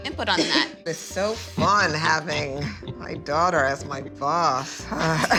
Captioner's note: sarcastically; sighs; laughter